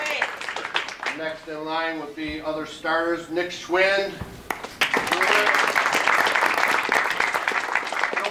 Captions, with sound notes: Next in line will be other starters, Nick Schwind, (audience claps)